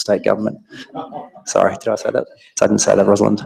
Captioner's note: audience laughing